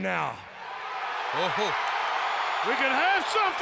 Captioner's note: audience cheering